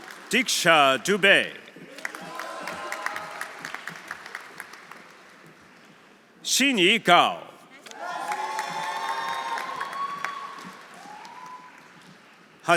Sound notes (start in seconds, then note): 0.0 audience applauding; 0.0 audience cheering; 1.8 audience applauding; 2.0 audience cheering; 7.9 audience cheering; 8.0 audience applauding